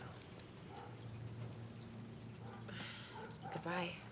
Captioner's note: dog barking